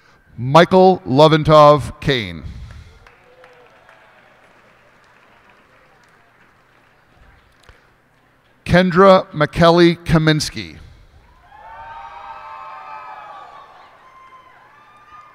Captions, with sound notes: Michael Levintov Kain. [cheers and applause] Kenndra Makelli Kaminski. [cheers and applause]